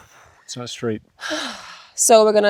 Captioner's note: sighs